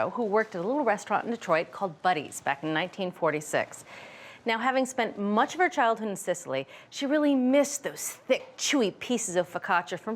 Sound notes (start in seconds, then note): none